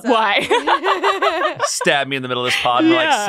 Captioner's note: laughing